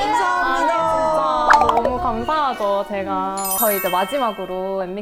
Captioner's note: crying